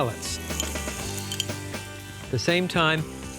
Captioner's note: spoon tapping